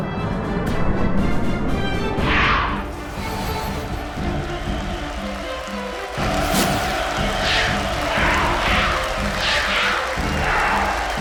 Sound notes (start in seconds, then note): 0.2 dramatic music; 6.3 crowd cheers